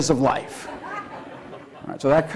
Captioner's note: laughter